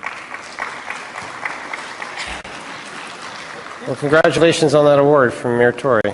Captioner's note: applause